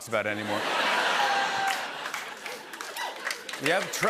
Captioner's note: laughter